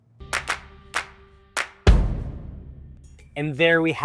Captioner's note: hands clapping